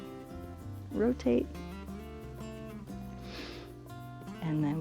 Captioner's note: inhales